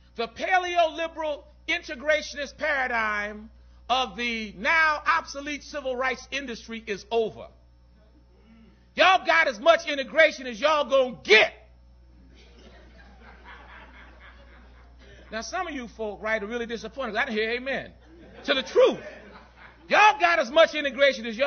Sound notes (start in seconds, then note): 12.3 laughter